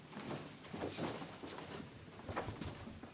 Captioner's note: footsteps